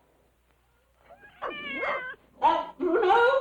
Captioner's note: cat meowing; dog barking